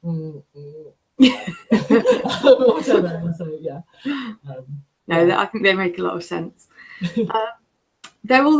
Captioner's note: laughter